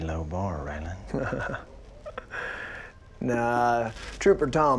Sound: laughs

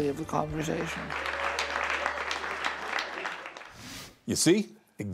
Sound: clapping

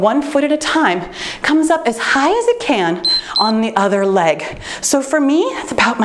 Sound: timer beeps

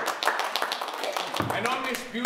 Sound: applause

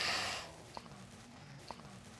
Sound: sobs

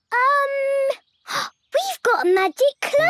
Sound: gasps

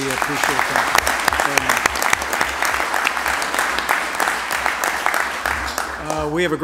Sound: applause

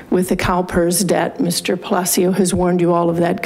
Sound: none

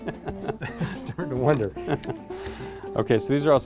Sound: laughter

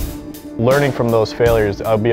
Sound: voiceover

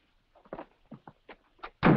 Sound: door slams

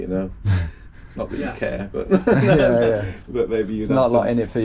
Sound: all laugh

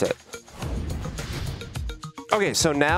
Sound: whoosh

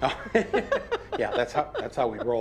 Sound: laughter

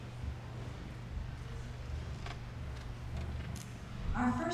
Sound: none

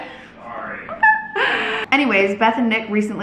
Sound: chuckles

